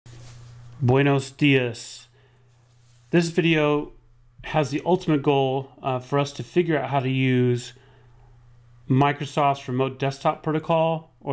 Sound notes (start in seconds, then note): 0.7 speaks Spanish